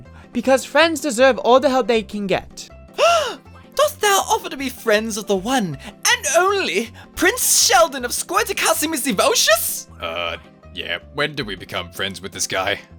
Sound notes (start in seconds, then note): 3.0 gasp